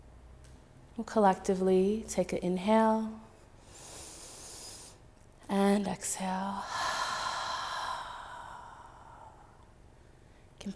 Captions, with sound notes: Collectively, take an inhale (inhaling), and exhale (exhaling),